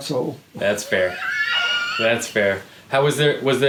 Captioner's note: chuckling